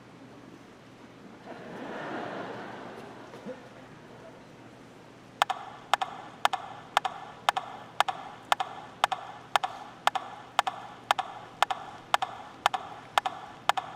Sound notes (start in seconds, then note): 3.3 audience laughing; 7.0 rhythmic tapping